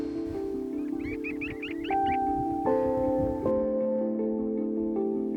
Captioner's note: birds chirping